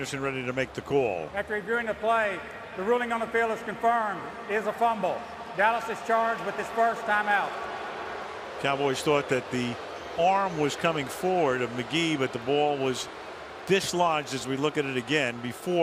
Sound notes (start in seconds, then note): 8.0 booing